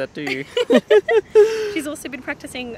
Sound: both laugh

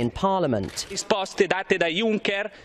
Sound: italian in background

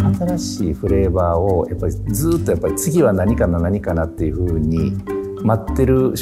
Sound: light upbeat music; speaking in foreign language

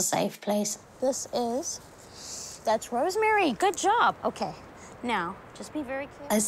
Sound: sniffs

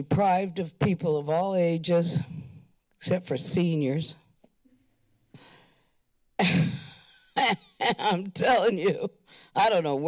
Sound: laughter

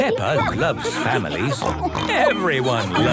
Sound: snorts

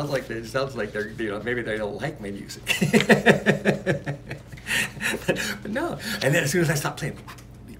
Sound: laughs

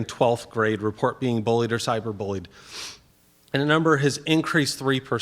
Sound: sniffs

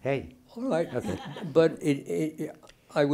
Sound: laughing

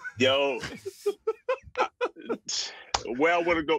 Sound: laughter

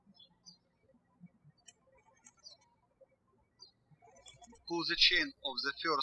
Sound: birds chirping

